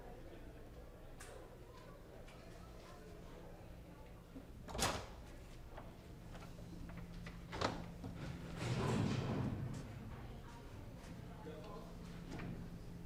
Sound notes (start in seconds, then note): none